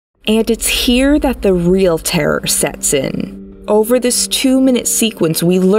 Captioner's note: none